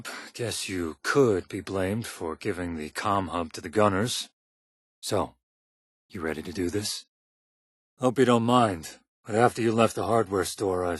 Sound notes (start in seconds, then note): none